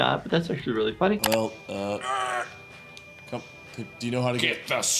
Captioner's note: groans